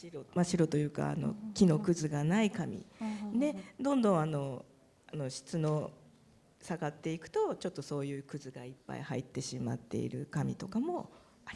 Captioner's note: speaking japanese